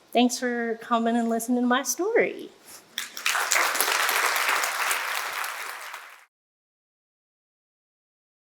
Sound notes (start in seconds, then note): 2.9 audience applauding